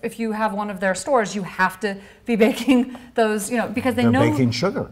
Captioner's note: laughs